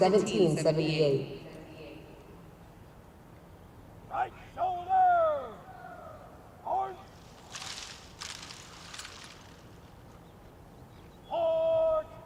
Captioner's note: shouted commands